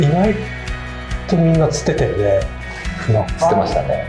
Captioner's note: laughs